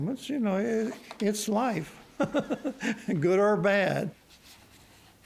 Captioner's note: chuckles